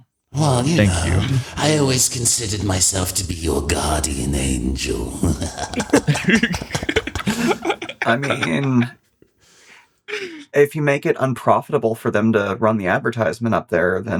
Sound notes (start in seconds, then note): 5.6 Aloha Laughs; 5.6 menacing Sword Laughs